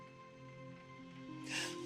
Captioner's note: sobbing